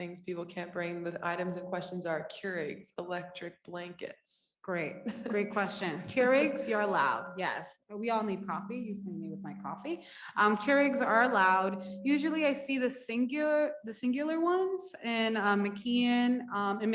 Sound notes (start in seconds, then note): 5.0 woman laughs